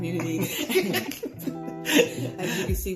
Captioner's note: laughter